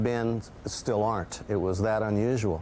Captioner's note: voiceover